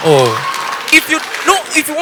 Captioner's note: audience applause